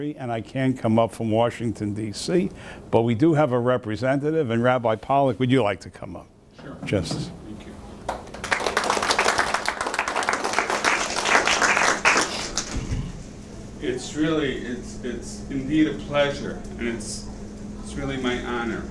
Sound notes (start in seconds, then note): 8.0 audience applauding